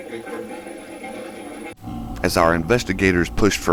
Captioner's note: static playback transmitting